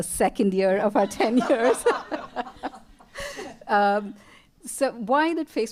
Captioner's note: laughter